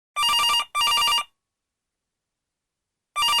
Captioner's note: phone ringing